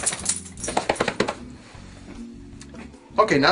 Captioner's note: quick slapping